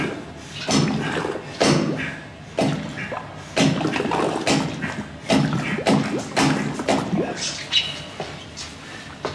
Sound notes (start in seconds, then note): 3.6 water splashing and bubbling